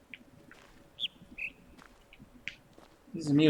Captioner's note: bird chirps high-low